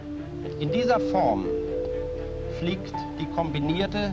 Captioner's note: speaking German